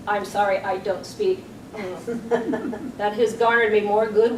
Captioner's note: soft grunt